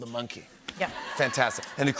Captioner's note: laughter